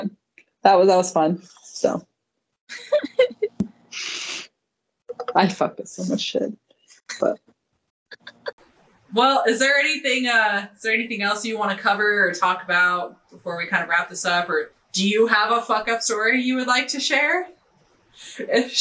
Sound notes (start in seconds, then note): 2.7 giggling